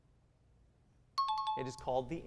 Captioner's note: timer